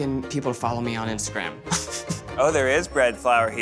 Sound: snickers

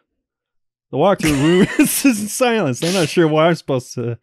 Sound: cracks up

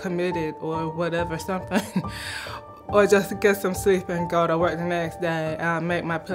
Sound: chuckle

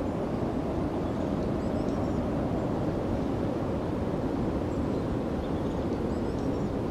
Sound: wind blowing

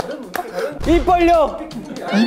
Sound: he's shouting an answer

